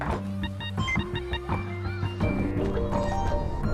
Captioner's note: wind whistling